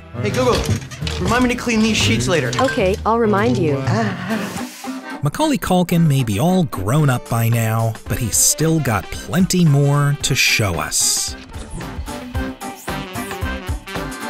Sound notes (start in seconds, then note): 3.5 groaning; 12.8 big band music